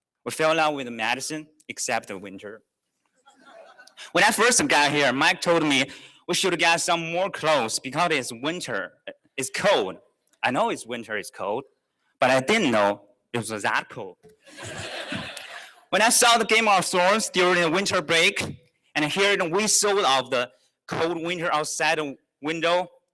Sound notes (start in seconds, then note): 14.4 laughter